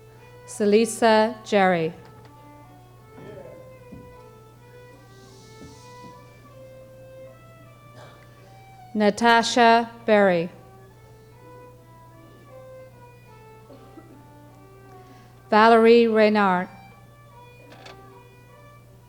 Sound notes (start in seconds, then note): 4.9 audience shushing